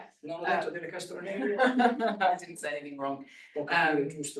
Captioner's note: chuckles